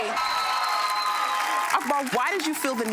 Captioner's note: audience applauding